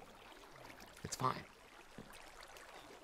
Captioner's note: whispers